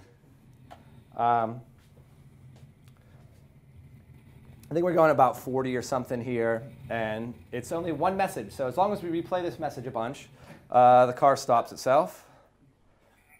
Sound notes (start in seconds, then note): none